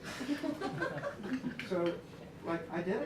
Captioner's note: laughter